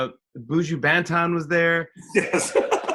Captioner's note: laughs